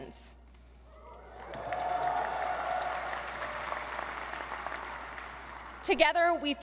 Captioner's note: audience applauding and cheering